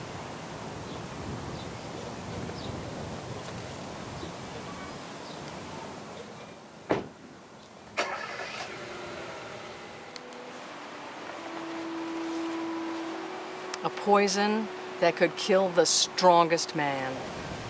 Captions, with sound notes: (wind whooshing) (birds chirping) (car door slamming) (car engine roaring) (wind whooshing) (birds chirping) - "A Poison That Could Kill The Strongest Man."